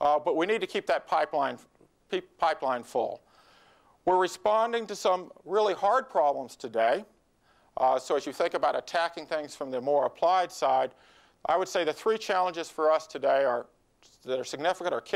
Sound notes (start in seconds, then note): none